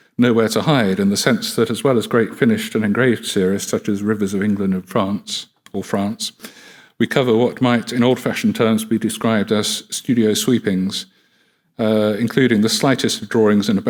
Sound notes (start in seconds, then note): none